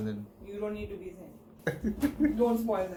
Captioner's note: nervous laughter